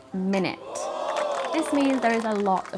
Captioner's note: crowd gasping and applauding